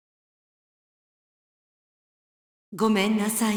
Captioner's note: silence